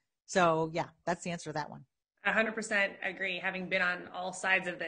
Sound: none

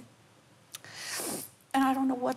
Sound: sniffles

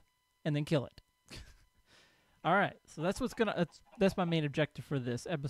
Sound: laughs

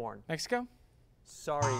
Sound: error buzzer

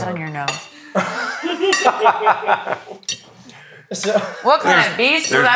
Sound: laugh

